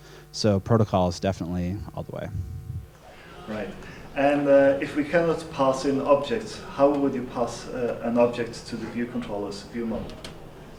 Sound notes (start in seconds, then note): 3.5 voiceover